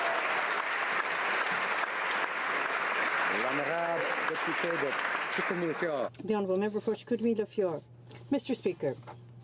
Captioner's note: applause